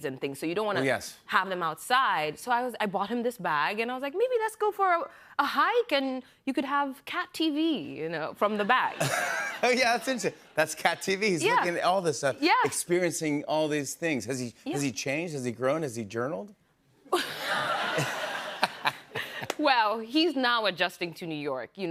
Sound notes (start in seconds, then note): 17.1 laughter